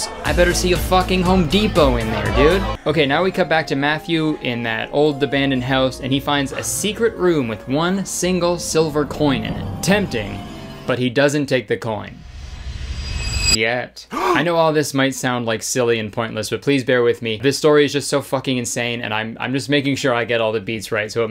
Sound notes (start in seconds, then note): 12.2 suspenseful music; 14.1 shocked gasping